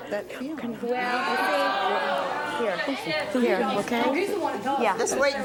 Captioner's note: audience exclaims